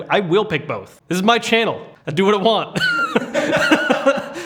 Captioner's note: laughs